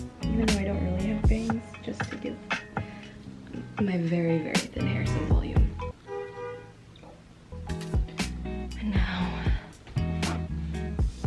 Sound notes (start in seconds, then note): 6.0 car horn